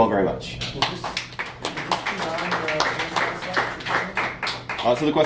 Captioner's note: class claps